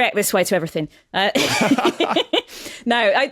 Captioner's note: laugh